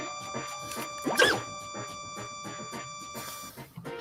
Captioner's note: laser sound